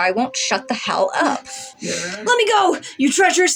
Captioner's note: chuckle; Mr. Invisible Grumbles